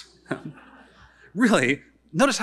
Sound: audience laughing

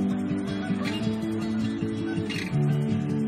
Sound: ducks calling

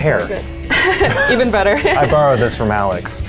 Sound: laughs

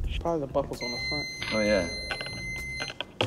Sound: wand beeps

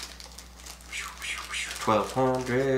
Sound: whistling faintly

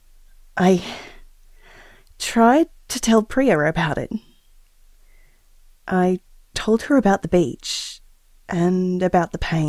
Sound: nervously

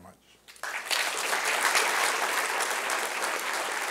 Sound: applause

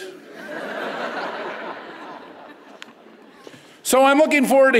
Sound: audience chuckles

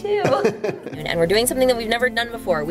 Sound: laughing

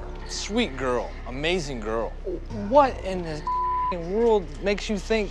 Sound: beeping

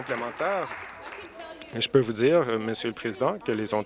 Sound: applause

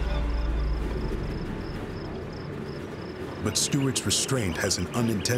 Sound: crickets chirping

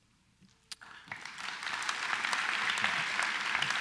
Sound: applause

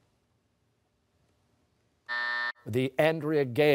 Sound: buzzer

